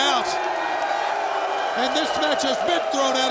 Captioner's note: audience shouting